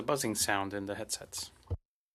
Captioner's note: speaking French